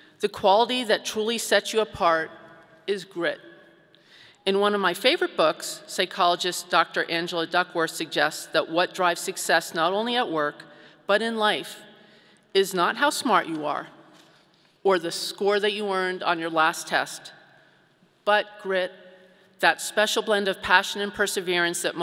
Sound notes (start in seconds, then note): none